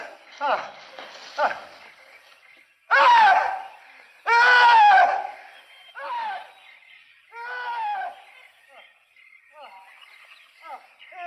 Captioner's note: screaming